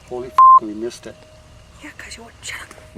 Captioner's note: beep